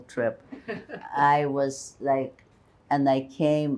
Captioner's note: laughing